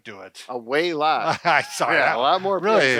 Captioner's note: chuckles